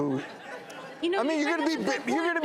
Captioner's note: chuckling